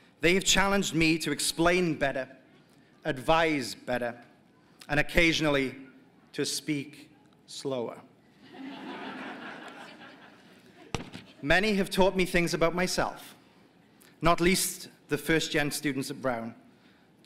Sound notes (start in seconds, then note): 8.4 laughter